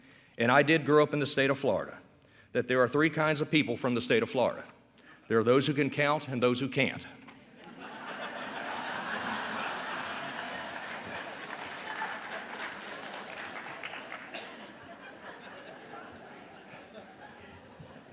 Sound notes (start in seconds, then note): 7.6 laughter